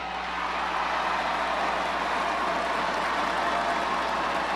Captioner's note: crowd cheers